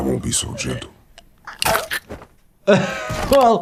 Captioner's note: neck snaps; doctor laughs